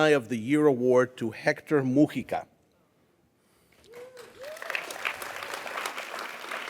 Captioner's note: audience applauds